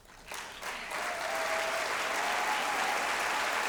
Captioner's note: applause